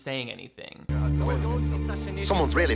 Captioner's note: workers chattering